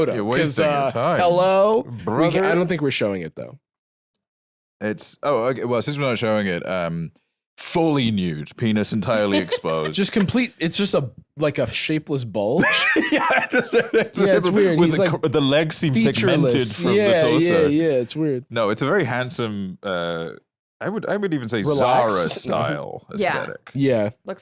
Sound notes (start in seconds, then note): 12.6 laughing